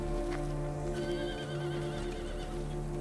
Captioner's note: horse neighing